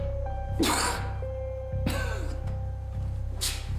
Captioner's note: coughs